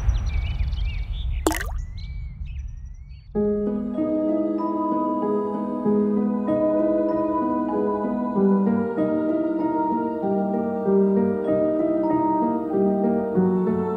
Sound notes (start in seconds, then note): 1.4 liquid trickles